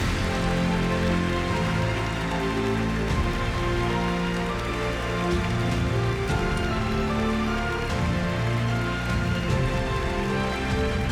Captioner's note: applause